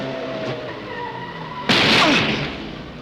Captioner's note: gunshot